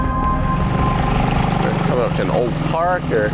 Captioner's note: boat engine humming